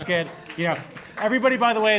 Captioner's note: applause